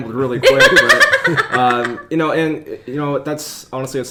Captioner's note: laughing